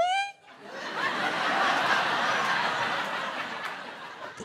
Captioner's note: audience laughs